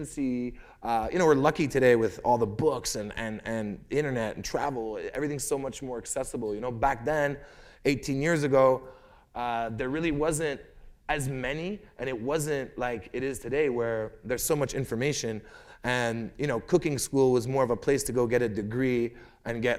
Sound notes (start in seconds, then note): none